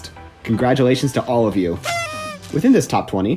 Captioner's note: noisemaker SFX